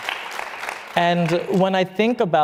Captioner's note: applause